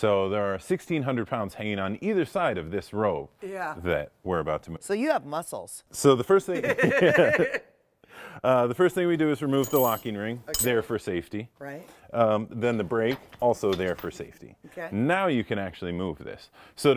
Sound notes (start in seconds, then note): 6.5 both laugh; 9.5 locking ring clinks